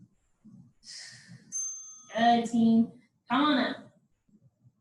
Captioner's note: ding